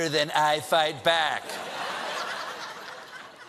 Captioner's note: laughter